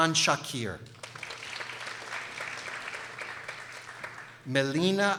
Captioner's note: people applauding